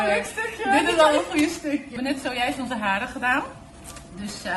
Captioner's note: giggling